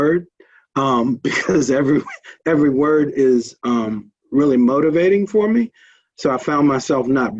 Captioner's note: laughs